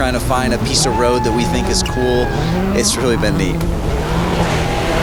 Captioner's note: man whoops; engine revs